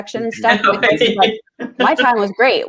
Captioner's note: laughter